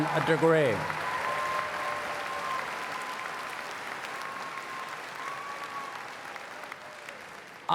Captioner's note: cheers and Applause